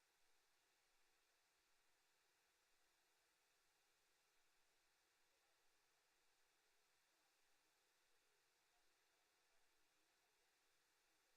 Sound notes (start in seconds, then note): none